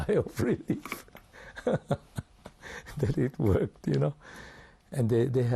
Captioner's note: laughs